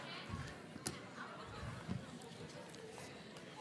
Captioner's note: chattering